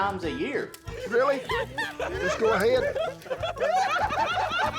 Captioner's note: laughter